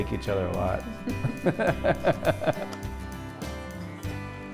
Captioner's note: laughter